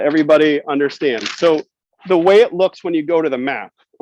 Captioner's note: paper rustles